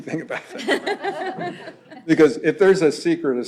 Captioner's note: laughter